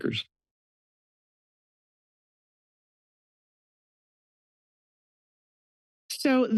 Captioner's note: silence